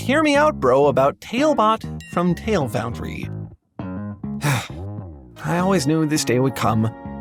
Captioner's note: sigh